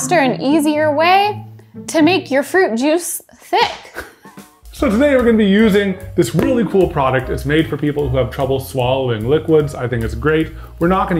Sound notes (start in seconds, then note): 3.5 graphic slapping; 3.9 chuckling; 6.3 graphics thudding softly